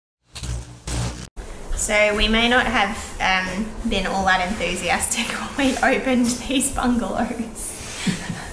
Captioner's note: laughs